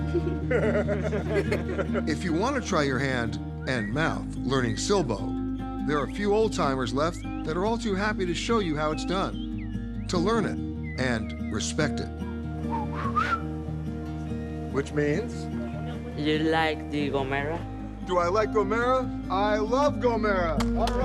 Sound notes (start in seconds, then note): 0.0 laughing; 12.6 whistling